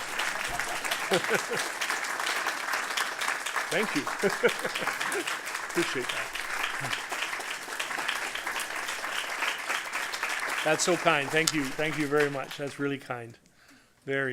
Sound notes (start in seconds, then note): 0.1 laughter